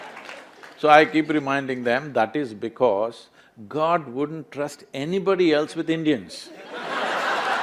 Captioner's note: laughter/Applause